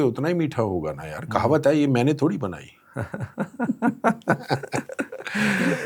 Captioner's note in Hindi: हंसी